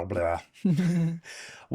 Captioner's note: laughing